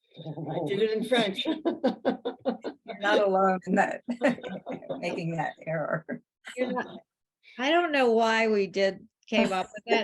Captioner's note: laughs